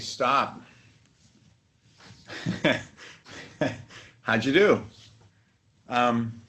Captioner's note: laughter